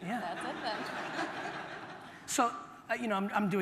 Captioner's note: audience laughter